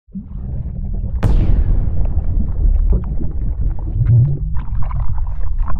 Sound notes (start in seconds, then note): 1.1 explosion; 2.2 underwater bubbling